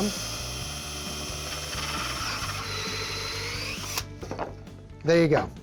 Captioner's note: drilling